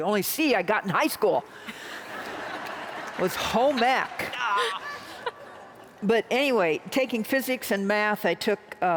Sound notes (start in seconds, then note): 2.0 laughter